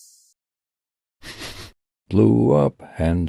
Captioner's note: sniffs